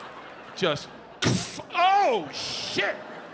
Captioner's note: audience laughs; Bert makes thud sound